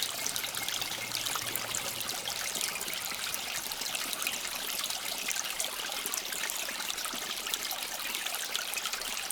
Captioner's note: water flowing